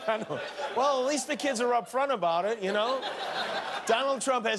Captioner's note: laughter